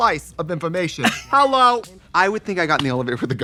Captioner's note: Katya laughs